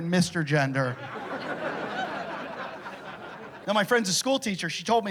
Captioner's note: laughter